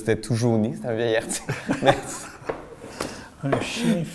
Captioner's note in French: rire